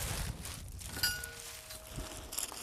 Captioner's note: clunking